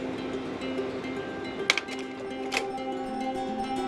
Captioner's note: projector clicks